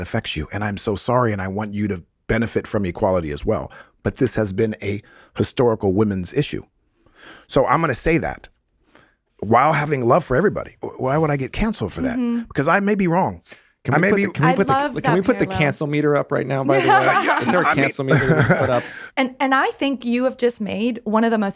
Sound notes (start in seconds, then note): 16.7 laughs